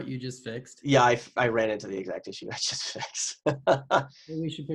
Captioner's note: laughs